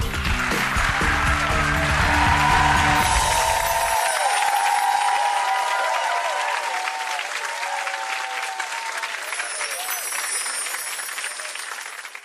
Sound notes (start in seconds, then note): 0.1 cheering; 2.1 energetic music; 3.0 chimes; 4.9 clapping; 9.1 chimes